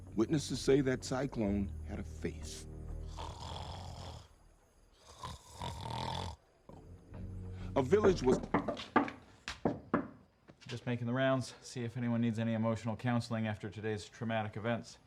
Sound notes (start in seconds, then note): 5.0 snores